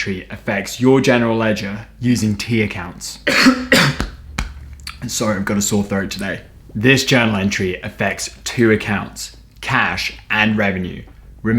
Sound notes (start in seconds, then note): 3.2 coughs